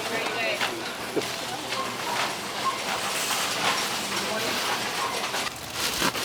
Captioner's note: trolley whirring; giggles